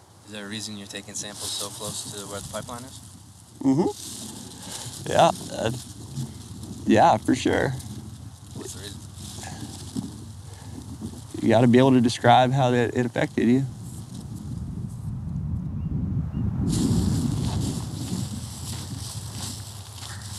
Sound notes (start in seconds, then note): 16.7 heavy foot steps